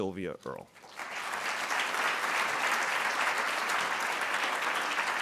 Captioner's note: audience applauding